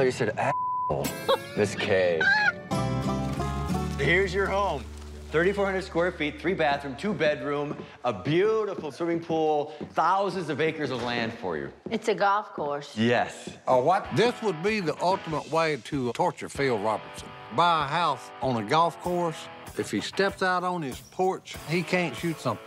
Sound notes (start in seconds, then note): 1.0 laughs